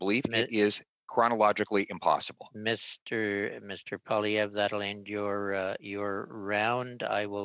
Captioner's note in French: voix de l'interprète